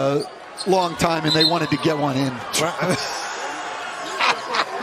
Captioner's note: laughter